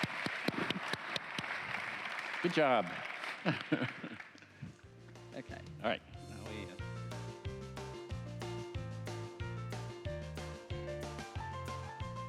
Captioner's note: applause